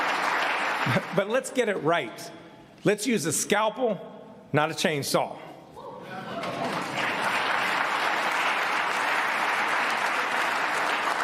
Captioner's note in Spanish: aplausos